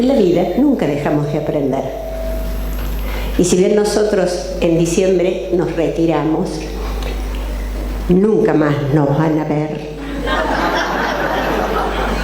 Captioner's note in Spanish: risas